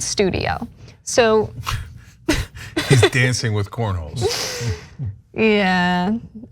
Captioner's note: laugh